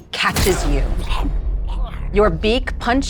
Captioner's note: gurgling